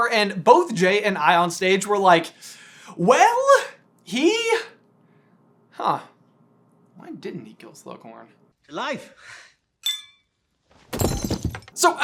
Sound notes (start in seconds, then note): 9.8 clink; 10.9 thunk